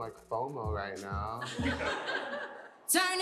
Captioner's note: laughter